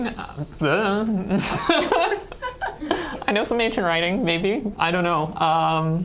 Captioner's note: laughter